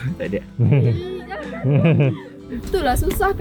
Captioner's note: laugh